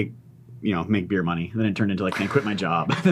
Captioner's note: chuckling